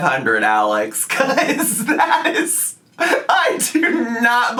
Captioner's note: chuckles